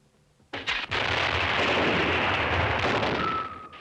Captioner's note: gunshots